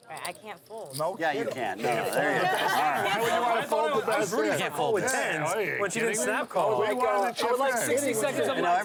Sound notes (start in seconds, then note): 1.0 group chatter